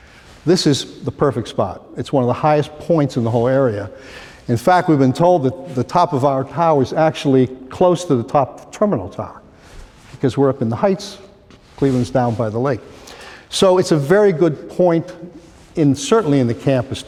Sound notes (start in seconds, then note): none